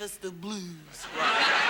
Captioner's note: audience laughs